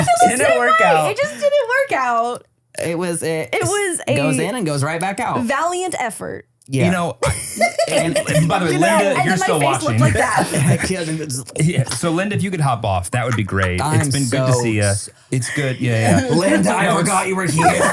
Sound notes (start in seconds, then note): 7.2 laughs; 11.7 gags